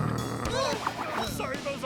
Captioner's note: growls; both gasp